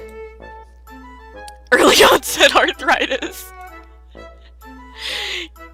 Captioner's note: laughing